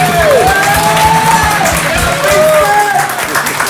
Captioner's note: cheers and applause